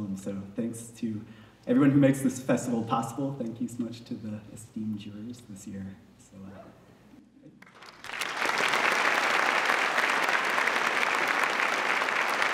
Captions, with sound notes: So thanks to everyone who makes this festival possible thank you so much to the esteemed jurors. (Applause)